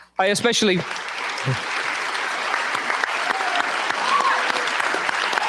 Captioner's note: cheers, applause